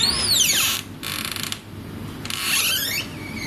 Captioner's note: door creaks